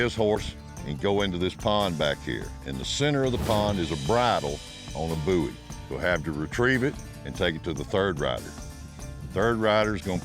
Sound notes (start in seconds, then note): none